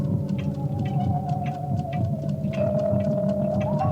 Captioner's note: heart pounding